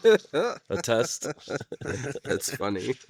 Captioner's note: laughing